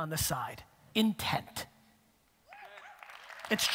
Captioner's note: audience cheering and applause